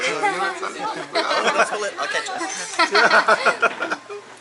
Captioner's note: laughter